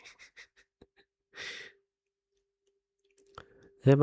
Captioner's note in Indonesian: tertawa